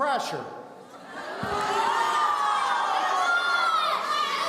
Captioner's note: audience shouting